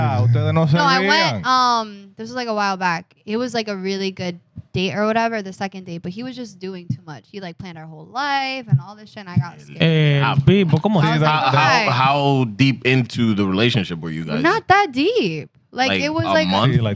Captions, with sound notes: (Speaking Spanish) No, I went. This was like a while back. It was like a really good date or whatever, the second date. But he was just doing too much. He planned our whole life and all this shit. And I got scared. (Speaking Spanish) How deep into the relationship were you guys? Not that deep. Like, it was like-- A month?